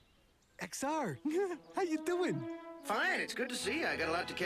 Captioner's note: laughs